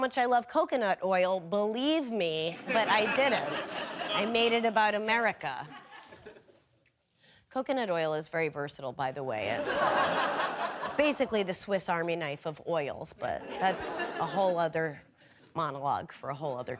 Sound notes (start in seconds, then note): 9.5 audience laughing